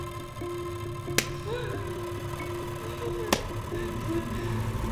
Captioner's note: Hannah crying